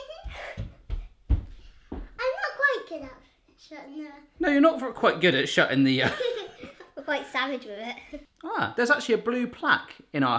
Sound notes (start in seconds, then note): 6.0 laughing